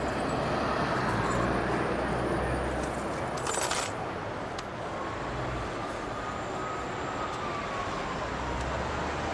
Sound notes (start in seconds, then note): 4.9 distant siren wailing